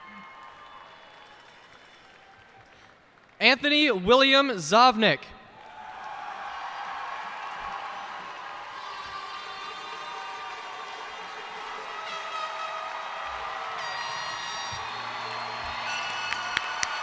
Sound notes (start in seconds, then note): 0.0 cheers and applause